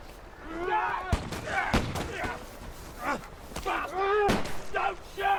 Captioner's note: shouting, gunshots